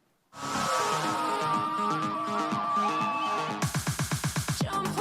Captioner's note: upbeat music; crowd cheering